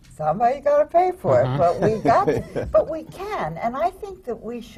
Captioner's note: laughter from the panel